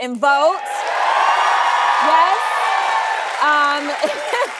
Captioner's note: cheering